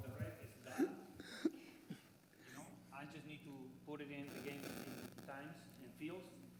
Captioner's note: laughter